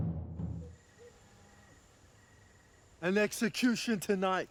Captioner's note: crickets chirping